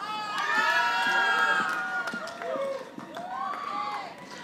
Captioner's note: audience applauding